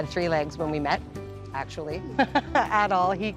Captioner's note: laughing